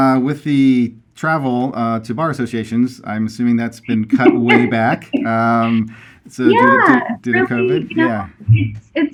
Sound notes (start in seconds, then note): 6.9 laughs